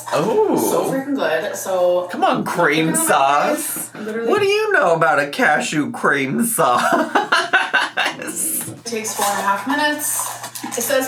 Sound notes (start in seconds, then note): 6.7 laughs